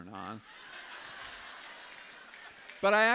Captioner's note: laughter